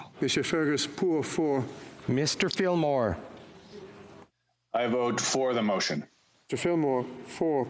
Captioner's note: speaking FRENCH